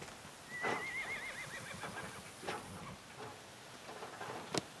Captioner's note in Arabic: صهيل الحصان